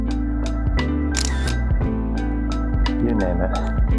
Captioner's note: dramatic music; camera shutter clicks